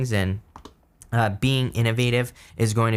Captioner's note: keyboard tapping